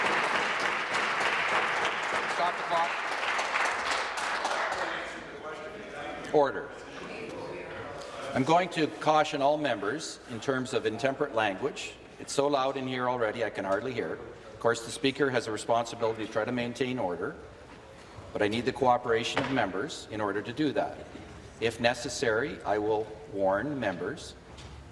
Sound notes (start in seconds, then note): 4.2 applause